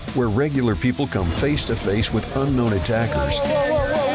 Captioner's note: whooshing